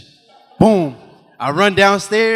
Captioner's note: audience laughing